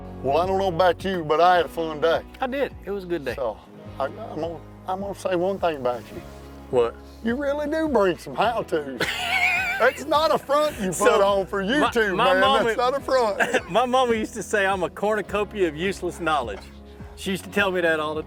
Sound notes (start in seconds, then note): 9.0 laughing